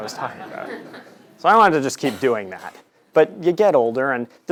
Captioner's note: laugh